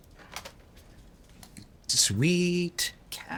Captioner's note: phone clicking